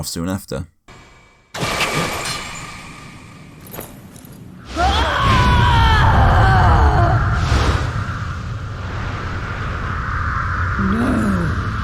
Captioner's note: in-game audio